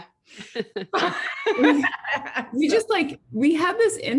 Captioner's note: laughing